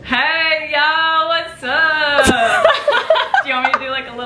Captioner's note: laughing